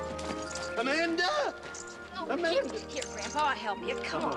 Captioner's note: none